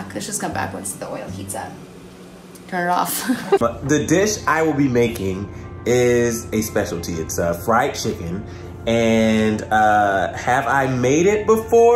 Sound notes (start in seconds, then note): 3.2 laughs